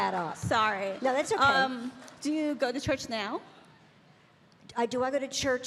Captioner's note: Bridget and audience laughing